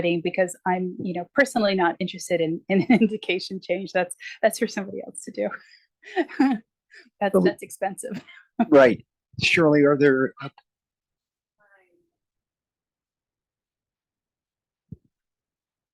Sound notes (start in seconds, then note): 6.2 chuckles